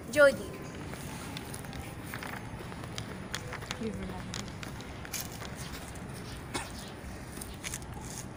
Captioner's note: static Crackling